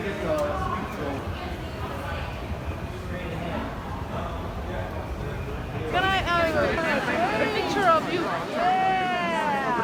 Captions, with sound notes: (chatter of fans) Can I have a picture of you?